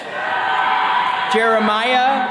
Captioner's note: attendees cheering